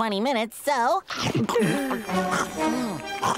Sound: gasping

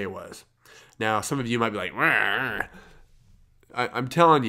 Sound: imitates growling

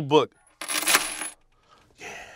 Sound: chains rattling

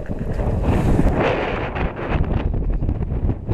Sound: strong wind

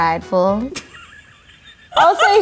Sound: laughing

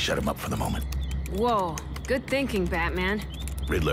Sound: keys clacking

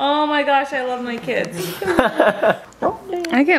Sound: laughing

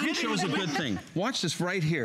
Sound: laughter

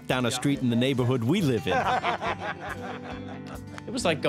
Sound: laughing

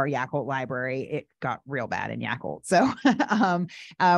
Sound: laughing

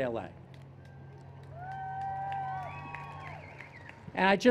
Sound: applause and Cheers

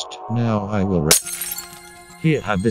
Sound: glass breaking sound

